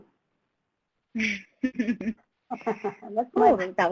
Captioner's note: laughs